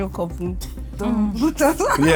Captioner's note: laughs